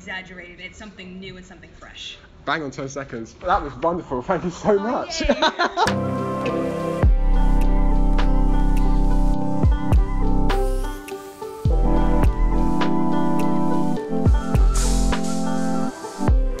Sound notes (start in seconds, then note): 5.1 laughs; 5.4 exhausted relief